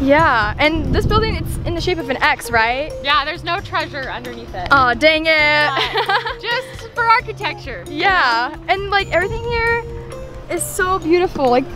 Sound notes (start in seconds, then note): 5.6 laughs